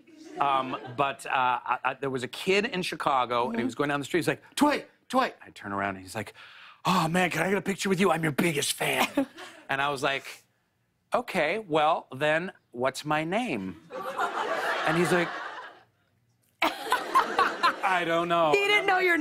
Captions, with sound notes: Um, but there was a kid in Chicago, and he was going down the street, he's like, "Dwight! Dwight!" And I turn around, and he's like, "Oh, man. Can get a picture with you? I'm your biggest fan." And I was like, "Okay. Well, then, what's my name?" [ Laughter ] And he's like... [ Laughter ] "I don't know." -He didn't know your name?